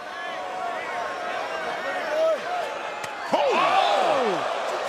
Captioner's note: crowd cheering